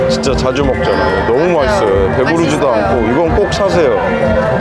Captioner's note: laughing